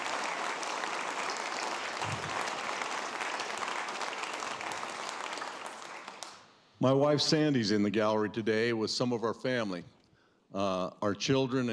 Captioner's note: applause